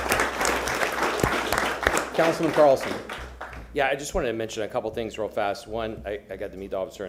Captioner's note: applause